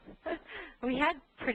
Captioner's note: laughter